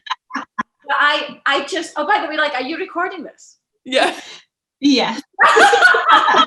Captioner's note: audible laughter